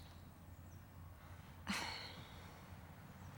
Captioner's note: sighs